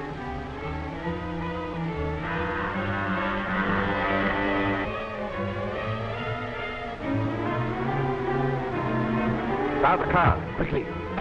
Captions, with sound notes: (devisualizer humming) - Start the car, quickly! (metallic thudding)